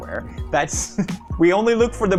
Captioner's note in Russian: хах